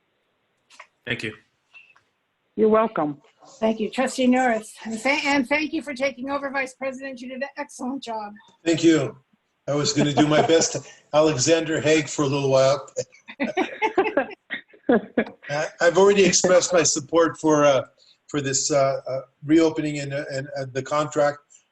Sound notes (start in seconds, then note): 9.7 laughter; 13.2 laughter